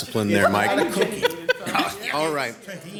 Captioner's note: laughter